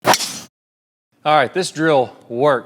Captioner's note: golf club strikes ball